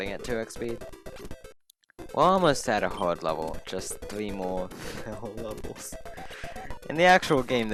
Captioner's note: laughing